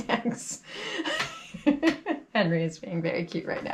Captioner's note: laughs